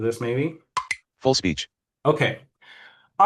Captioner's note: computer chimes